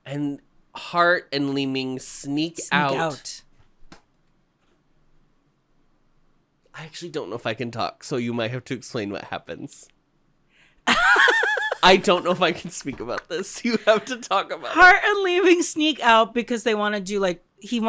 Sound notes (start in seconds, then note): 10.9 laughs